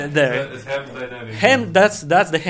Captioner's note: laughs